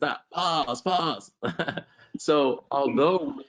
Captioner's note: laughs